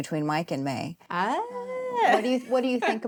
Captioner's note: laughs